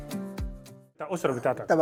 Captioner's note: speaking Arabic